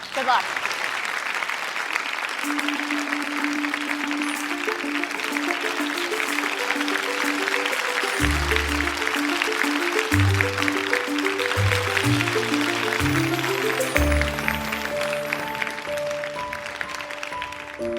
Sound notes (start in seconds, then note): 1.4 applause